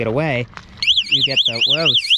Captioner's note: alarm blaring